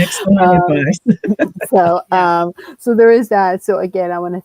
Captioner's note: laughs